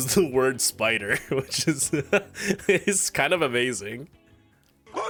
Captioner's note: laughs